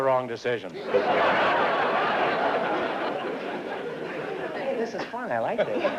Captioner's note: laughter